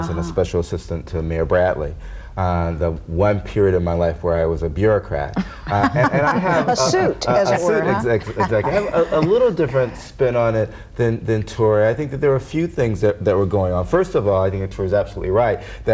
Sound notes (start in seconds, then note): 5.6 laughing